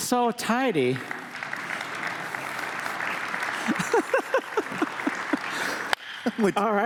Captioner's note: applause